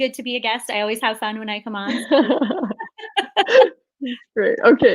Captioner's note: laughs